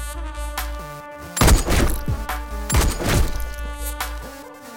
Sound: gunshot

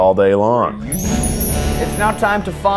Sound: twinkling

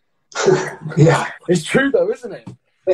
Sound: laughs

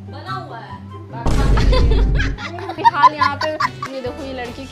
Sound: loughing

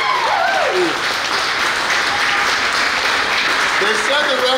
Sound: crowd cheers; crowd clapping

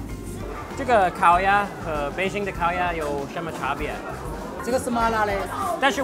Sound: speaking in a foreign language

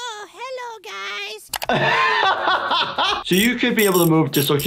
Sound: laughing

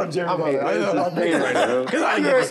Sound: indistinct chatter

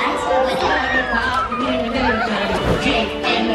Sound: children laughing and squealing

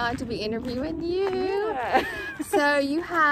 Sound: laughs

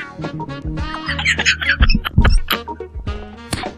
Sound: laughing

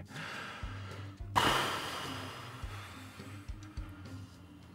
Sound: both exhale

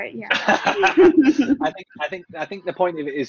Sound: laughs

